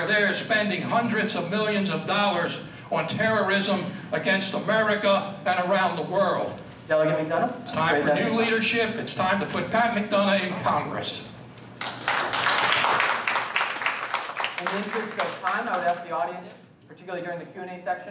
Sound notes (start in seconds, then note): 11.8 applause